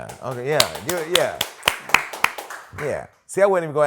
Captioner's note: applause